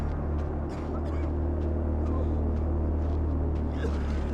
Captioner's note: coughing